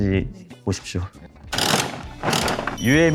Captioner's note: rattle